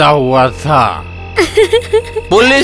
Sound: laughs

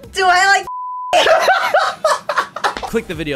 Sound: cracking up

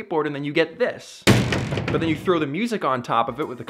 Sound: jail doors slam mimicking skateboard hitting the ground

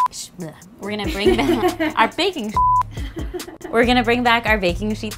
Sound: beeping; beeping

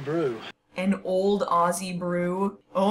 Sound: incredulous

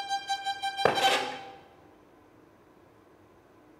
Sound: fingers tap

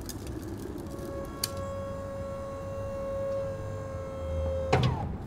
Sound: truck lift motor whirring

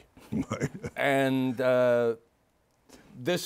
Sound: chuckles

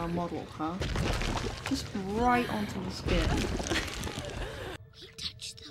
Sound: laughs

